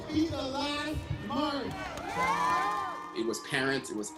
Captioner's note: crowd cheering